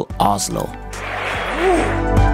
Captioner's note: crowd cheering